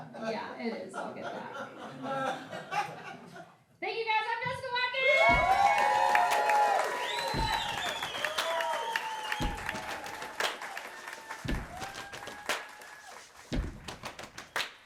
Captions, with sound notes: Yeah, it is I'll get back. Thank you guys, I'm Jessica Watkins. (audience applause) (audience cheering) (upbeat music)